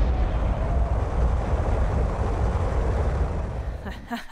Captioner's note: multiple explosions